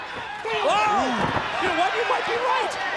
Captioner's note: crowd chatter